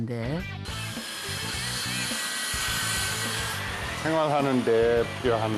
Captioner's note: whirring sound